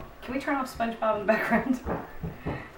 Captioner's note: laughter